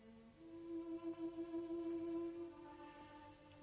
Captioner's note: none